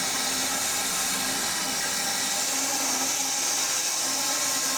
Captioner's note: saw whirring continues